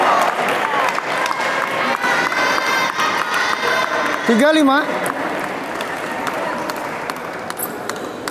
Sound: applause; applause

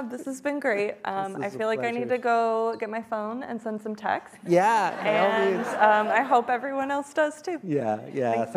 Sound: laughing

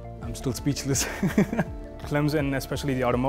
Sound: laughs happily

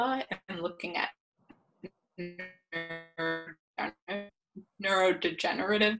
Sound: audio distorts

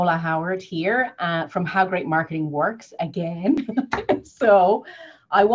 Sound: laughs

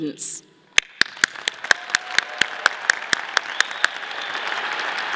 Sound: audience applauding

